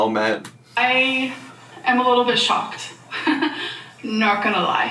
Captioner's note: chuckles